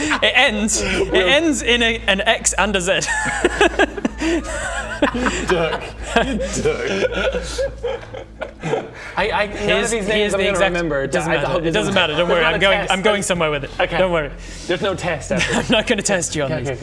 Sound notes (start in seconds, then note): 3.7 hysterics